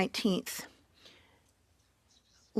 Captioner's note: speaking French